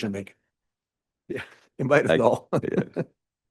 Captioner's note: laughs